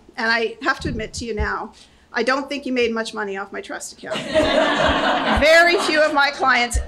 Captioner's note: laughter